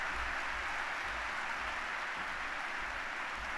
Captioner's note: applause